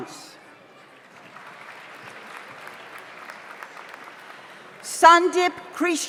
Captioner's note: audience applauds